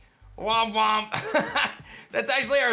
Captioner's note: laughs